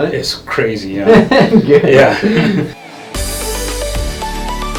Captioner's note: laughs